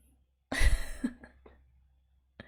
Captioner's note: laughs